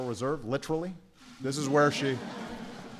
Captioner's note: laughter